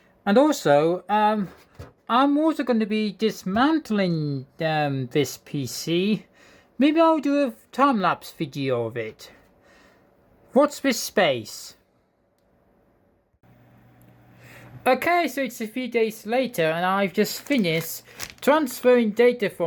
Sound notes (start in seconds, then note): none